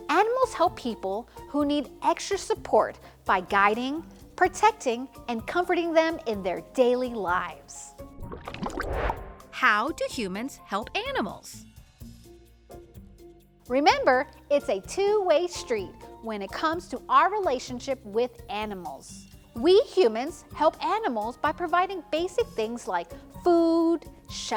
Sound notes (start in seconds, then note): 8.0 transition whooshes; 8.1 water burbling